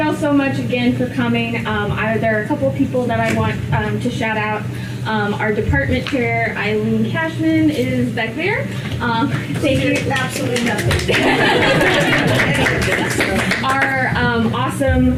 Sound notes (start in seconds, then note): 9.6 applause